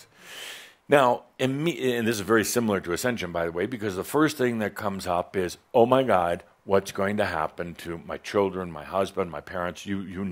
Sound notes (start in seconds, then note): none